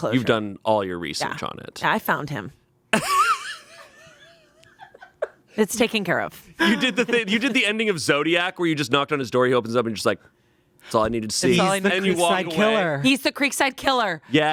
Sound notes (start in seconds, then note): 3.0 Shayne laughs